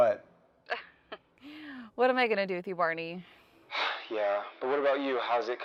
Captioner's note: chuckles